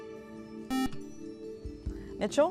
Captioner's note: buzzer